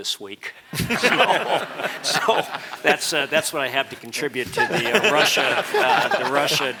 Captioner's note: laugh